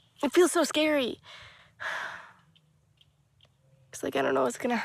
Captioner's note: sighs